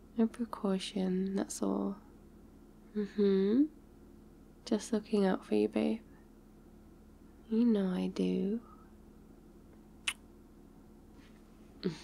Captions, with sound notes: a precaution, that's all mmhmm just looking out for you babe you know I do *kiss*